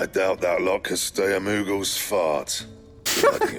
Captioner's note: laughter